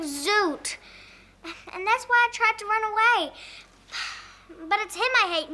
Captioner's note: sighs